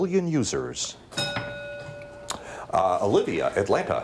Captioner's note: bell dings